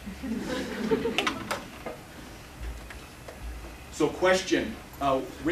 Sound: laughter

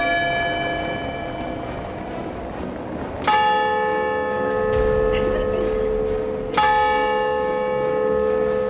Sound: clock bells

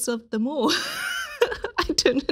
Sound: laughs

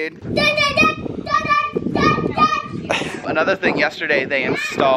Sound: yelling

